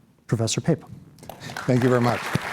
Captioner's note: applause